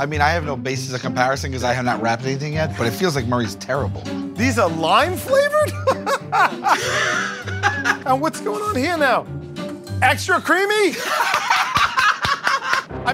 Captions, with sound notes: I mean, I have no basis of comparison because I have not wrapped anything yet. But it feels like Murray's terrible. These are lime flavored?! [ Laughs ] And what's going on here now? Extra creamy?! [ Laughter ]